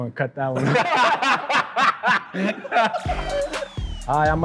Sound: laughing

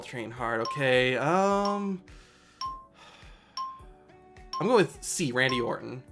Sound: countdown timer ticks down

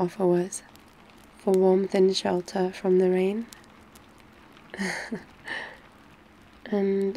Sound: laughs

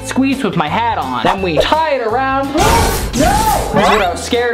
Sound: gasps

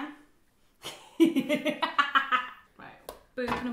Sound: laughing

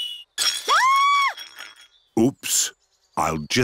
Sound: clattering and shrieking

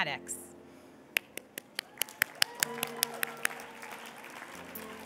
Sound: applause

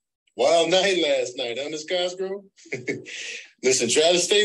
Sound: laughs

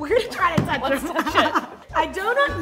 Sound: laughing

